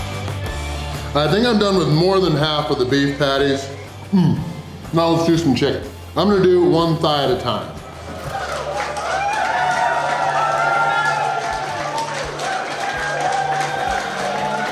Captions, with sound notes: I think I'm done with more than half of the beef patties. Hmm, now let's do some chicken. I'm going to do one thigh at a time. (Crowd clapping and cheering)